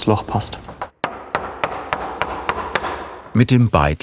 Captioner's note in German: Hammergeräusche